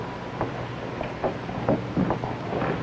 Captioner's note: footsteps approaching